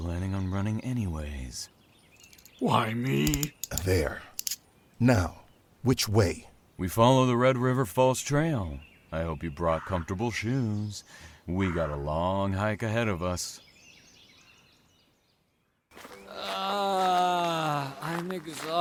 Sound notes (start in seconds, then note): 2.8 handcuffs click closed